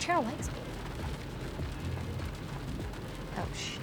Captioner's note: rain pattering